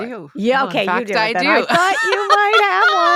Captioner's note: laughs